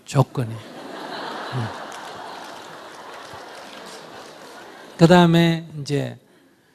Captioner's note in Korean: 청중 웃음